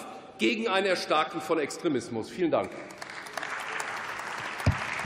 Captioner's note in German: Beifall